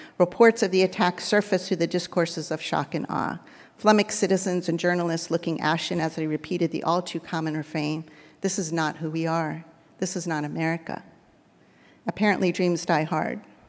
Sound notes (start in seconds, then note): none